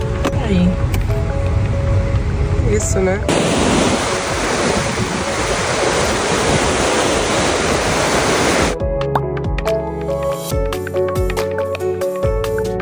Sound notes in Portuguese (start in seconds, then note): 3.3 água corrente